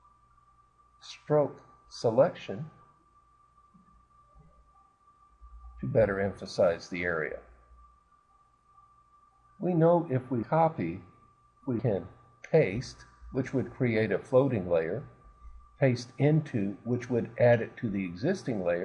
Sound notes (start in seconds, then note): 7.1 silence